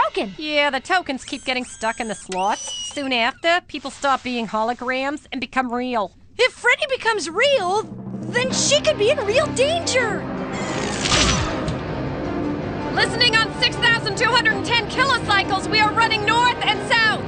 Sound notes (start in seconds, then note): 10.6 zapping sound